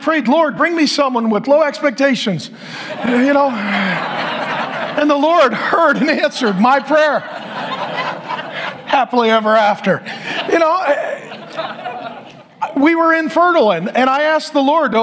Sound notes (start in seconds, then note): 2.6 audience laughs